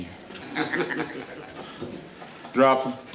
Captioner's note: gang members chuckle